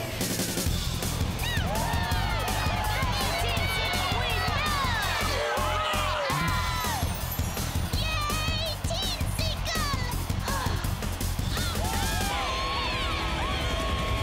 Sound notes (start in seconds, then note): 3.3 cheering